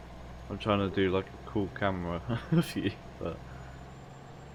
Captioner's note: laugh